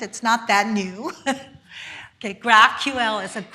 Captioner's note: giggles